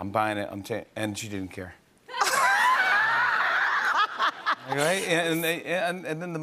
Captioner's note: laughter